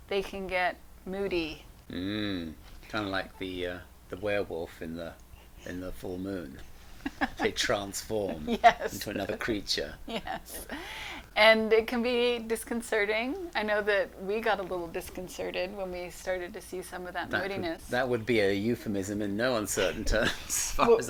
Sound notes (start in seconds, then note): 7.0 laughs